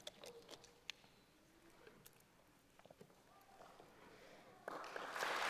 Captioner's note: applause